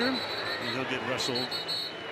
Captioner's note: whistle blows